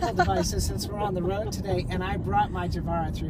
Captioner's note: laughs